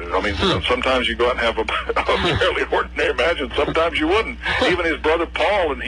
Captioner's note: laughing